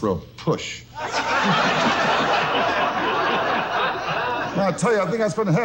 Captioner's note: audience loudly laughs